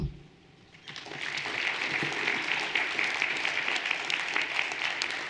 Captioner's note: everyone applauding